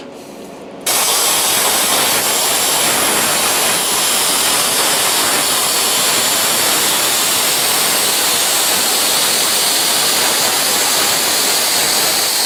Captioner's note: cutting